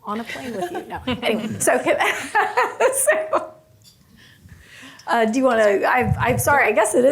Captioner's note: laughs